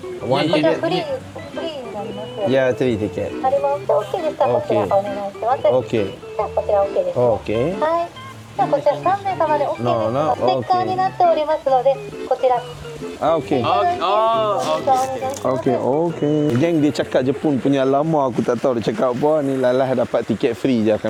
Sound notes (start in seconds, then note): 3.4 speaking Japanese; 10.0 speaking Japanese